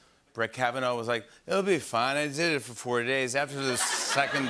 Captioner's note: slurring